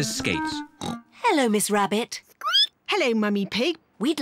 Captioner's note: snorts; squeaks